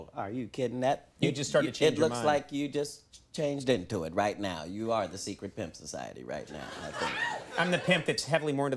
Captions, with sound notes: Are you kidding that - You just started to change your mind. It looks like you just changed into it right now. You are the Secret Pimps Society right now. (audience laughing) I'm the pimp that's heavily more